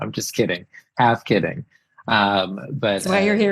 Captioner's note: laughs